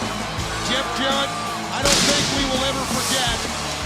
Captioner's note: crowd cheering